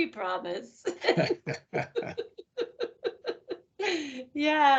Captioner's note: laughing